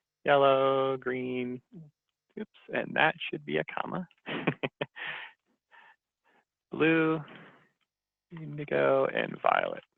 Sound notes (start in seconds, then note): 4.4 laughs